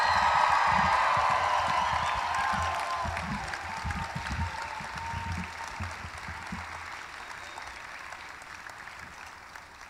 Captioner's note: applause; cheering